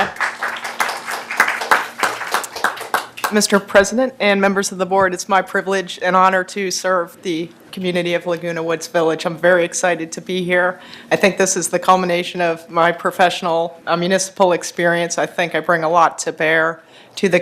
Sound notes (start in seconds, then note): 2.5 applause